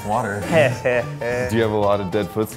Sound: laughs reluctantly

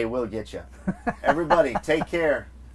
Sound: laughs

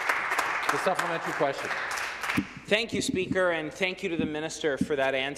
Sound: some Applause

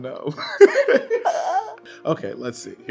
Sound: everybody laughs

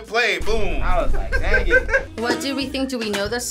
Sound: laughing

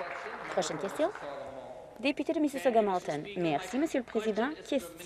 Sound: applause

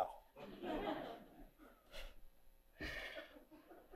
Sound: audience laughing

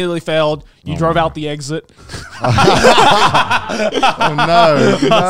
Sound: all laughing

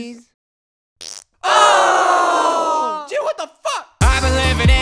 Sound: fart

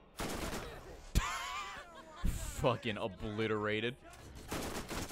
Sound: laughs

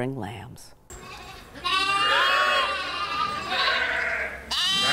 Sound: sheep squealing

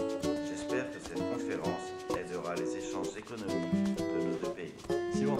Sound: French

